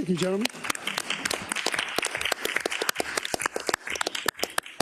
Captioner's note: attendees clapping